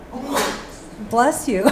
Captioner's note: audience member sneezes again; panel laugh